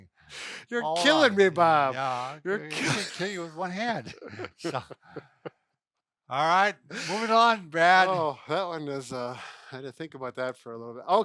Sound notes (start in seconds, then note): 3.8 laughing